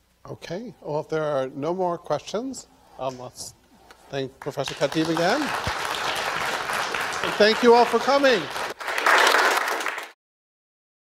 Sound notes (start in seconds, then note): 8.9 applause